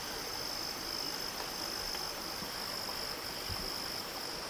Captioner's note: insects buzzing